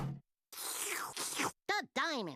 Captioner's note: slurping